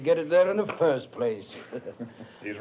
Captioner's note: laughs